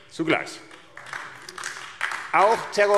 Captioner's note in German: Beifall AfD